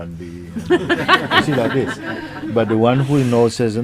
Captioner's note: questioner laughs